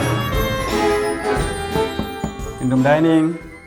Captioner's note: knocks on door